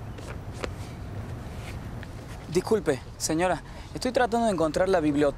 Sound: Spanish

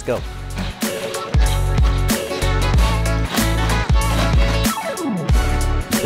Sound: robot stair climbing

